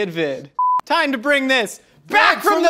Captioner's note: beep